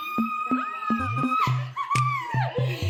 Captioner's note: shrieking